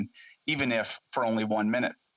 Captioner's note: speaking alternate language